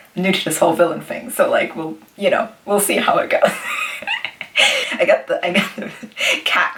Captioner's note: wheezes